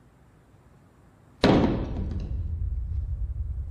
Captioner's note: thud